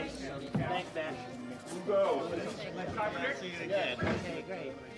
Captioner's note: men speaking